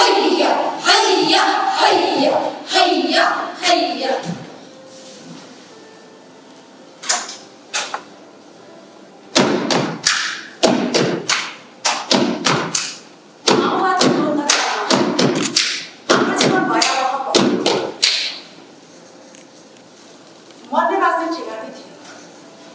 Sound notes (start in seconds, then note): 10.7 wooden floor tapping and hands clapping